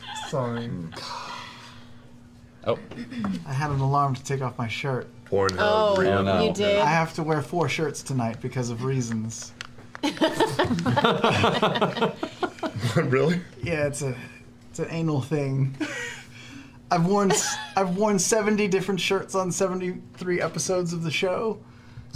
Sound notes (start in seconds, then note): 10.0 laughter